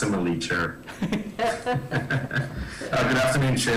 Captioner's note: laughs